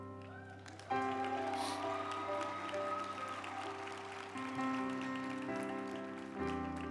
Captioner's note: group applauding; uplifting music